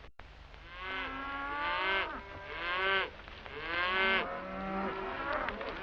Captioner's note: cows lowing